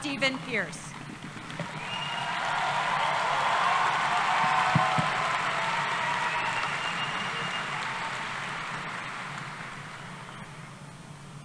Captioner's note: cheering